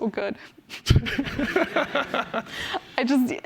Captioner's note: laughter